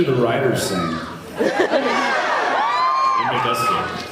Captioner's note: laughs, cheers